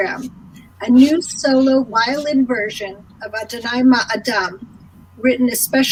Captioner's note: speaking in foreign language